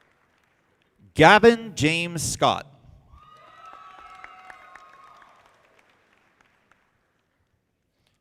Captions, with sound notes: Gavin James Scott. (audience applauding)